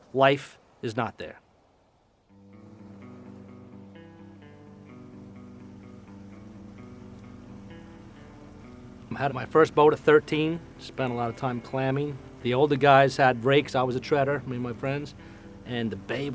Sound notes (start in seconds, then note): 2.9 relaxed guitar music; 5.6 boat engine humming